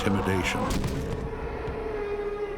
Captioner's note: bang!